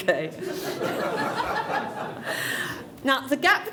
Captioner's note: laughter